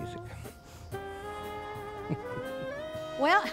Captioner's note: chuckles